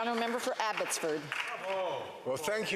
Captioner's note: some Applause